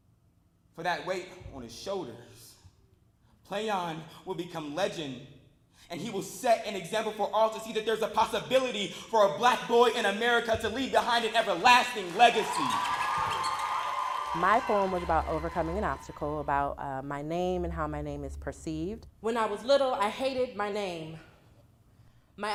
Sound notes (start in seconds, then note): 13.1 cheers and applause